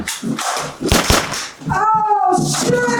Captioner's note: gun shots